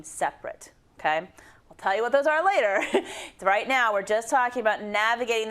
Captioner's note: laugh